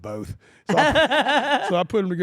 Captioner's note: laugh